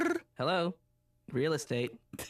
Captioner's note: imitates phone ringing